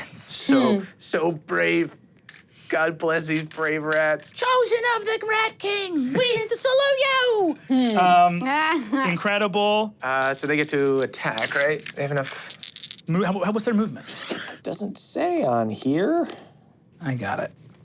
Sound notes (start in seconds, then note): 6.1 laughs loudly; 10.0 dice clinking